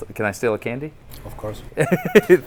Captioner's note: Destin giggles